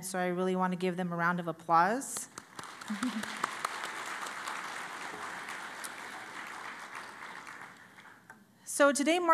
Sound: applause

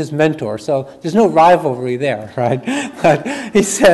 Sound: chuckles

